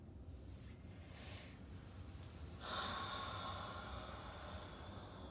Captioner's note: breathing deeply